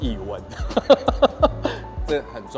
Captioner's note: laughs